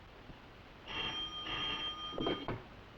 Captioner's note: phone rings